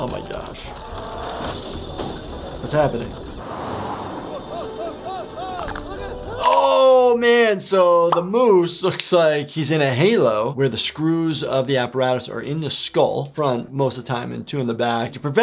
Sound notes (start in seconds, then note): 1.0 wind rushing; 4.4 Disco Bear exclaiming